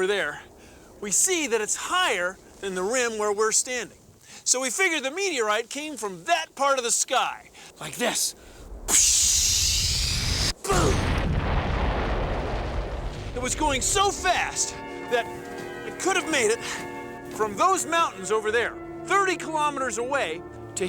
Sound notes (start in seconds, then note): 8.3 whooshing